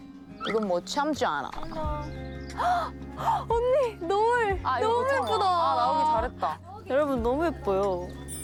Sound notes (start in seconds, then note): 3.2 gasp